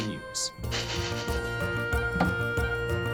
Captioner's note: sniffs